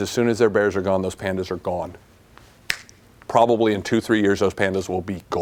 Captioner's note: snaps